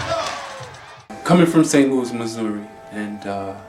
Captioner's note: voiceover